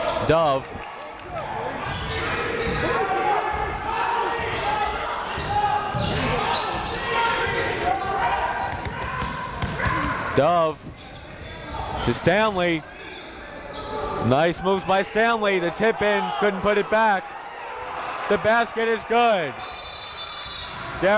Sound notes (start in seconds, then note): 2.1 crowd talking; 2.4 coaches yelling; 19.5 whistle blows